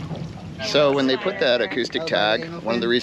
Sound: fish splashing

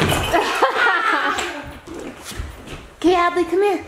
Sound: laughter

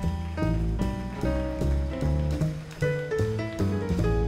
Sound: audience applauds

